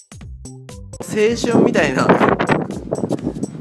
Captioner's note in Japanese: 強風